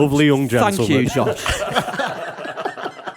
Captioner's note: laughter